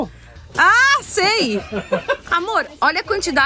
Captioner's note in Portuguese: risos